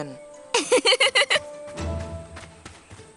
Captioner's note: laughs